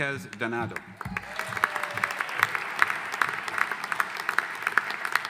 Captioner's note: audience applauding